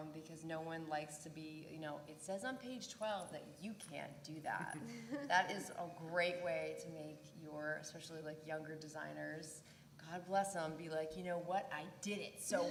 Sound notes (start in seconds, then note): 4.7 laugh